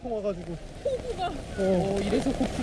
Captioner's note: heavy rain